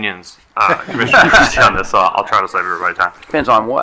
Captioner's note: attendees laughing